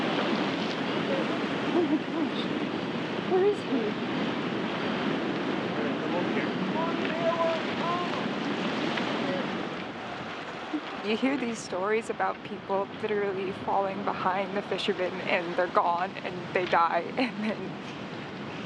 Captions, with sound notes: Oh my gosh. Where is he?? *distant shouting* You hear these stories about people literally falling behind the fishermen and they're gone and they die, and then...